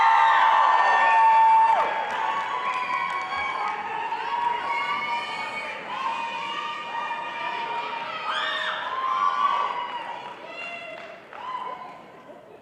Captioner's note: audience cheering